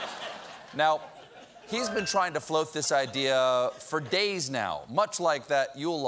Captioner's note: laughter